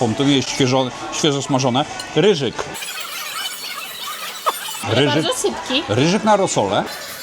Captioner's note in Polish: śmiech